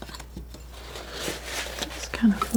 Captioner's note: scratching